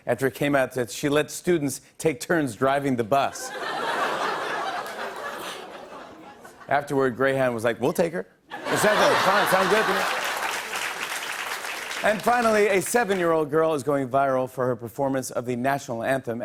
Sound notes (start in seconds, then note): 3.3 laughter; 8.5 laughter; 9.2 applause